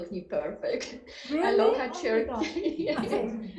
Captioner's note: laughing